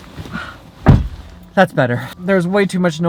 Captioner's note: door slam